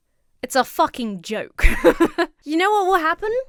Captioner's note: laughs